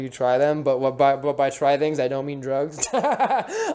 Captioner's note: laughs